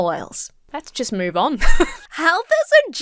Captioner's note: laughs